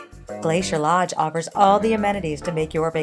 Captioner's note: Vietnamese